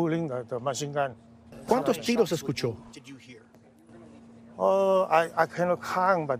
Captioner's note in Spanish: HABLAN EN INGLéS